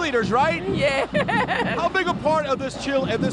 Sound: laughing

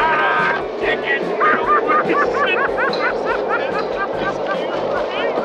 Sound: men laughing; wind howling

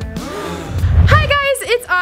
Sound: gasps

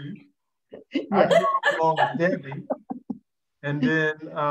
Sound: laughing

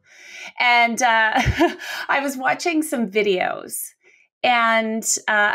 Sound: laughs

